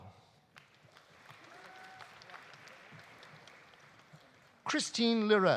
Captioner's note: audience applauding